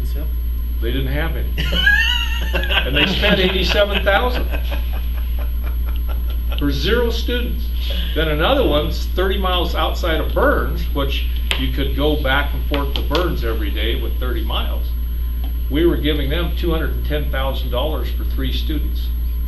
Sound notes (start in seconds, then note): 1.6 laughter; 4.7 laughter continues